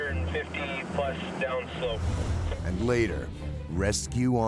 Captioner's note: voiceover